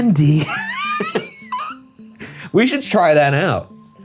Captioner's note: laughing